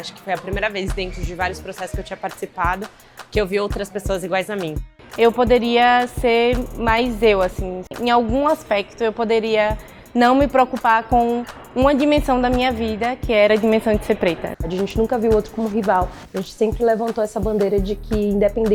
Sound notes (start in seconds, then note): 0.2 speaking Portuguese; 5.2 speaking Portuguese; 14.8 speaking Portuguese